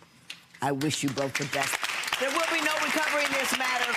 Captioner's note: audience clapping